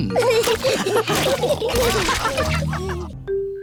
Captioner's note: all laughing